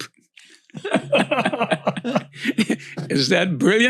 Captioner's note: panels laughing